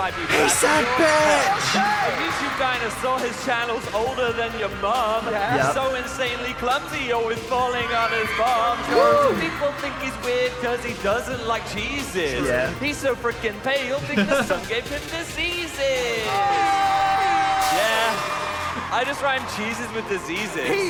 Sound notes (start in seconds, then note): 15.0 cheering; 17.1 horn blowing; 20.6 laughing